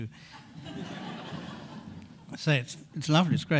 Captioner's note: audience laughing